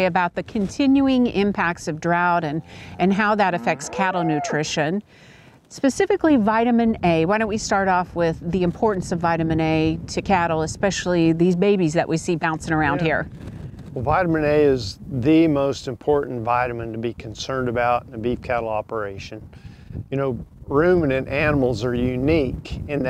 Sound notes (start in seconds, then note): 4.0 cow moos; 13.2 wind blows